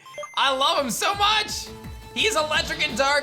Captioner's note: none